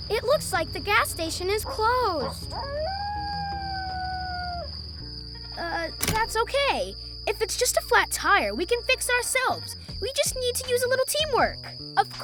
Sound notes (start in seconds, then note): 1.6 coyote howling